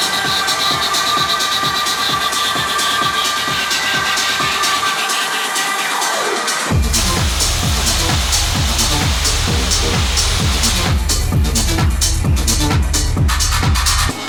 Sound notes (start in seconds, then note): 6.7 smoke blowing; 11.0 upbeat tech music